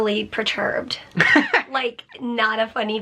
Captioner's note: chuckles